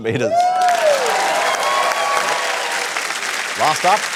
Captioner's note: cheering, applause